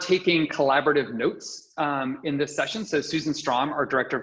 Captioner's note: chuckles